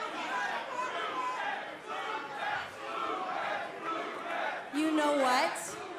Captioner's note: fans chanting